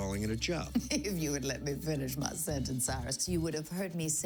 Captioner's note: chuckling